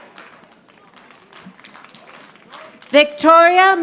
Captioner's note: audience applauding